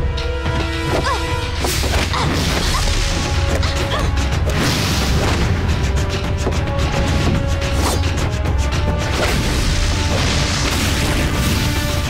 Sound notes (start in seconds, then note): 0.6 grunting